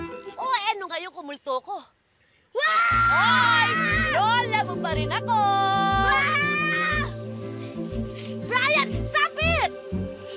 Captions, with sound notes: So what? -[screaming] -I'm still your grandma. Bryan, stop it!